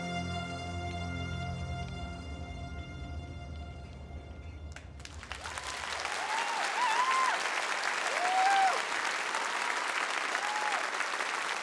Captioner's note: applause